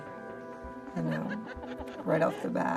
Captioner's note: laughter